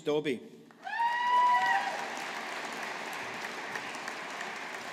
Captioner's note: audience applauding